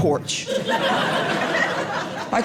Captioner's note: audience laughing